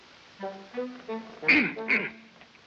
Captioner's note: clears throat